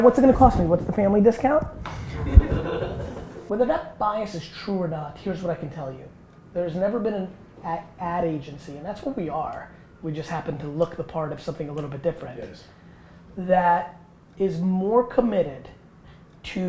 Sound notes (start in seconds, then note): 2.1 group laughter